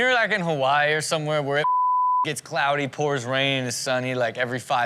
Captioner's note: beep